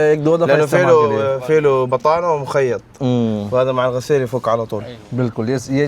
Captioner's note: Arabic